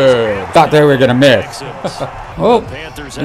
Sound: chuckles

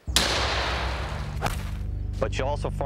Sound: gun fires

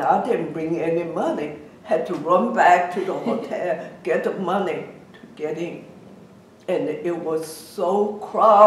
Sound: laughs

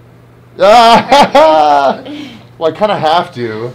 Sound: laughs

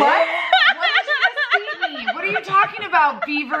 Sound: laughing

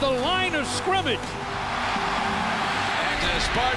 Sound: crowd cheers

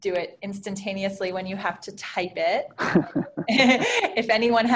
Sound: laughing

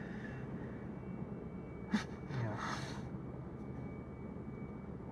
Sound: sighs

